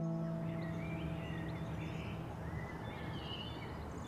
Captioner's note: birds chirping